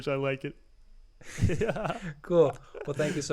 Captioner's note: laughs; both laughing